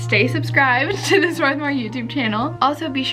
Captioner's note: laughs